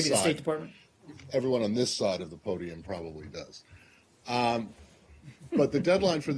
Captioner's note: laughter